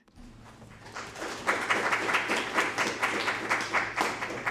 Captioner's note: audience applauding